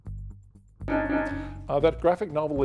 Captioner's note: bell dings